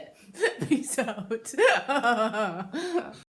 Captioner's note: giggles